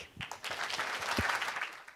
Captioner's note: clapping